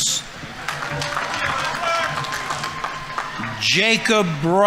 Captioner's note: audience applauding